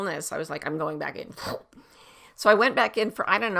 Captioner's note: slurps